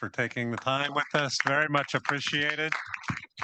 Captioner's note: audience applauding